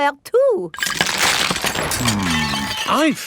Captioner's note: cracking